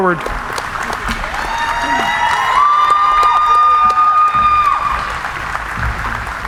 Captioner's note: applauding; cheering